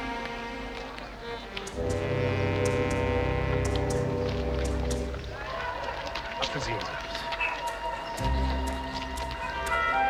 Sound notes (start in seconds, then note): 4.9 speaking german